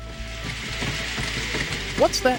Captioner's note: thumping